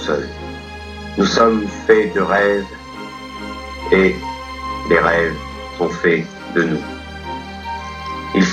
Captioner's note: voiceover of man speaking in french; voiceover of man speaking in french